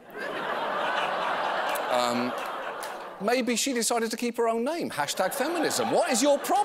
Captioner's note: laughter